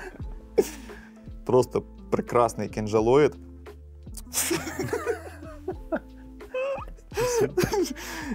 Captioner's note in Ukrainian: сміх